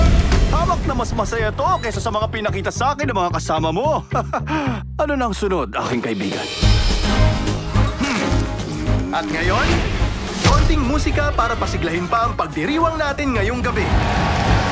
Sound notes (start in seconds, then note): 3.9 laughs; 6.4 cheerful music plays; 8.7 grumbles